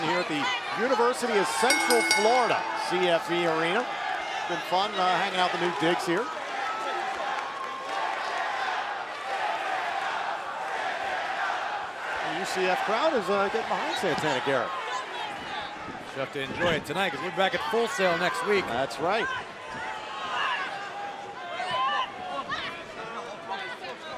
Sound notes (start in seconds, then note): 1.5 bell; 9.4 fans chanting